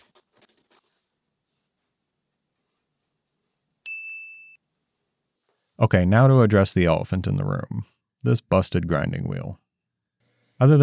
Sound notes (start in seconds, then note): 3.8 bell dings